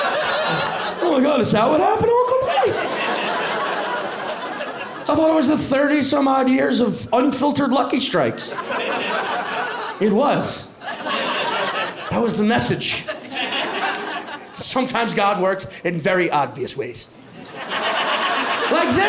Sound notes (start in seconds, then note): 2.2 laughter